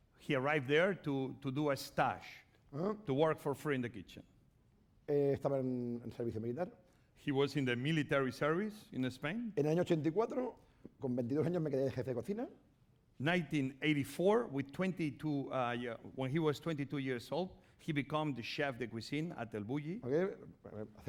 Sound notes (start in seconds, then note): 6.0 speaking spanish; 10.4 speaking spanish